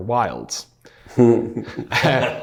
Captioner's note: laughing